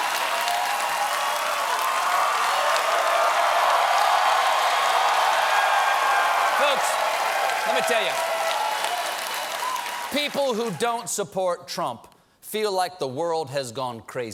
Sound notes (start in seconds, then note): 0.0 cheers and applause